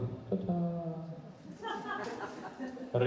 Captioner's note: laughing